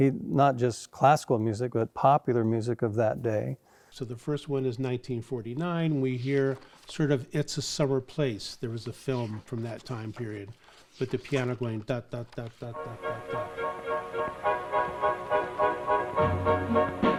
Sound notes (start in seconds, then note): 12.7 humming; 12.7 upbeat orchestra music